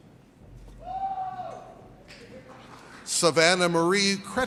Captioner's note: audience cheers